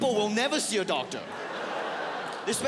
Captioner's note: audience laughs